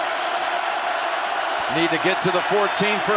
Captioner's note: cheering and applause